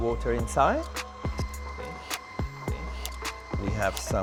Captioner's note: motor whirring